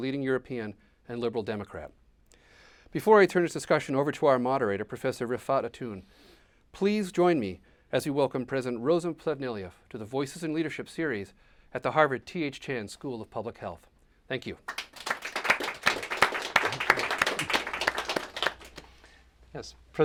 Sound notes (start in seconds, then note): 14.6 applause